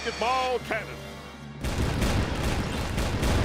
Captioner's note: canon firing